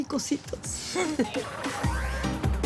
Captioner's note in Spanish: Risas